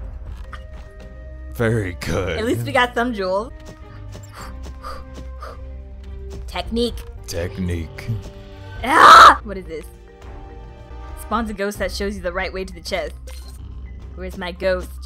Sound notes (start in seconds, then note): 8.8 yells